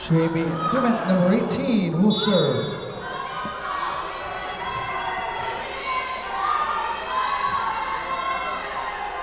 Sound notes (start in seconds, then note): 2.2 whistle blowing